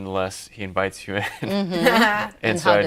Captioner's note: laughing